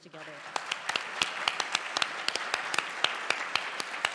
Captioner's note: applause